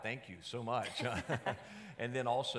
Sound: both laughing

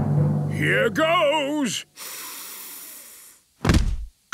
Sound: dramatic drumming music; sniffs

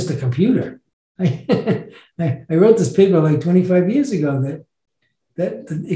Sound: laughs

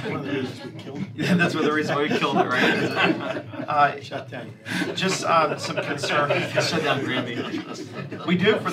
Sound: laughter

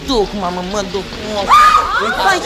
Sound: woman screams

